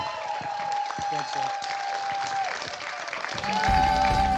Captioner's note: applause